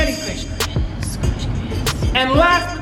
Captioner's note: whispered